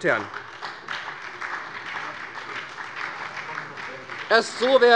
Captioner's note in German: Beifall bei der SPD